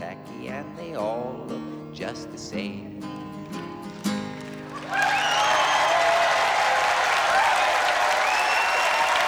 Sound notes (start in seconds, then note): 3.7 crowd cheering and clapping